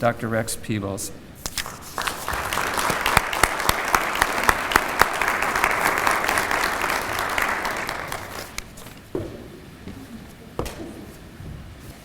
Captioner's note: applause